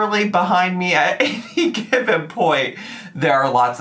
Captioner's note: chuckles